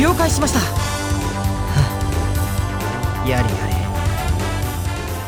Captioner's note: sigh